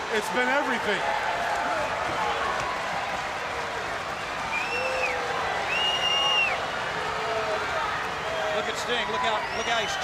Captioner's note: crowd cheering